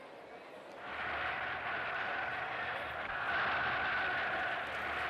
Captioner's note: shouting continues